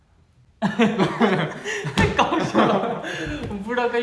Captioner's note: hahaha